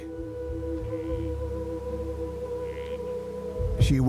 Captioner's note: frogs croak